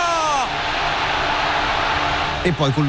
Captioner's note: crowd cheering